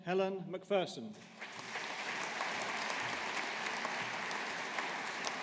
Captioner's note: audience applauding